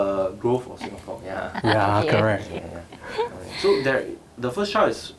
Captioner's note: laughs